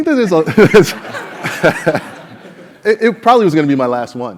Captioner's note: laugh